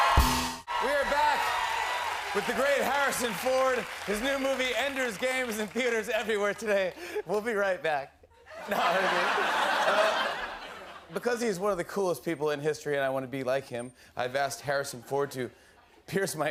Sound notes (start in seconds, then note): 8.3 laughter